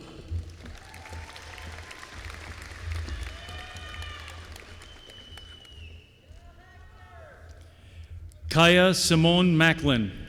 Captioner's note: applause